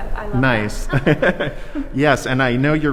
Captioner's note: both people laughing